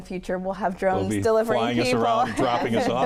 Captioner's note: chuckles